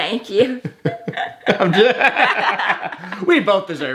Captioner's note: both laughing